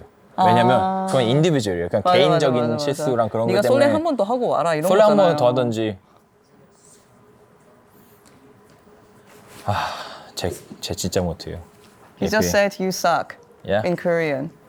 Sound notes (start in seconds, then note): 9.6 sighs